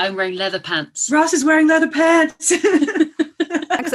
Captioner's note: laughter